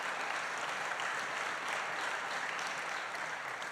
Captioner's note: applause